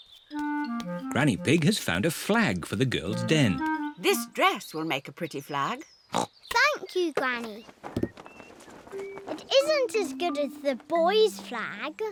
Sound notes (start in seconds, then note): 7.0 snorts